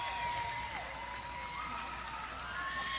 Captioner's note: audience applause